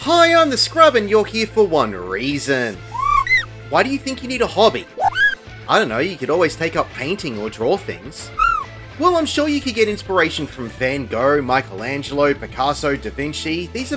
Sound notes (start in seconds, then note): 2.9 kweh?